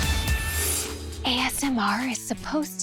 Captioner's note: whispering